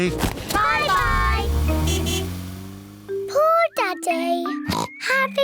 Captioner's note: toots horn; oinks